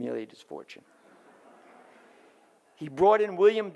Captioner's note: audience laughs